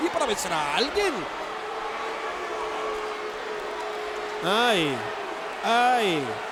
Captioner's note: applause